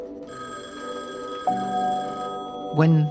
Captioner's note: phone ringing